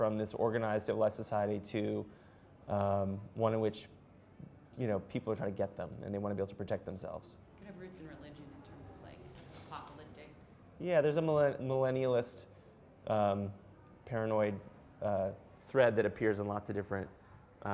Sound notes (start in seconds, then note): 7.7 voiceover